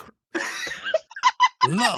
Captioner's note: laughing